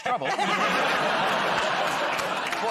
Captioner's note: laughter